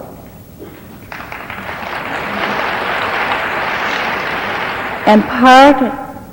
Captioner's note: audience applauding